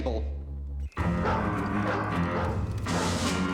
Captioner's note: dog barking